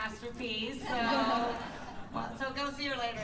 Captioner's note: laughter